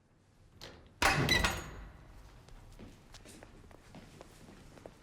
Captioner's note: door opening